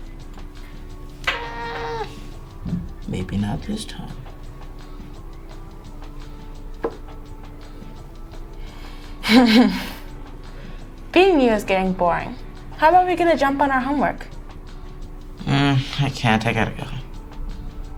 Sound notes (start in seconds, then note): 9.2 laughing